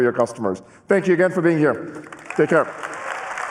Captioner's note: applause